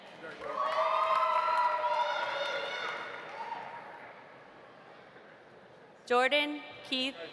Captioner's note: audience applauding; audience cheering